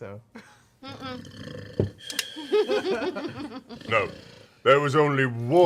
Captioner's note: snoring